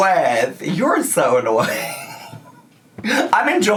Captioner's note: laughs